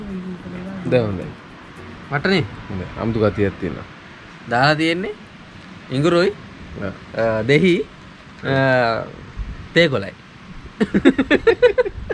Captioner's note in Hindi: हंसते हुए